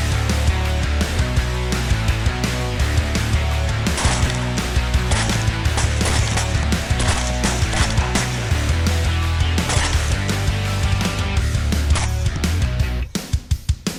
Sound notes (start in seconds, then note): 0.1 upbeat rock music; 3.9 gun popping